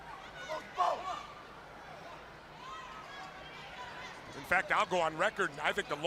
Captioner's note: crowd chatter